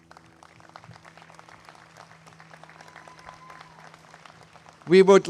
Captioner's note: applause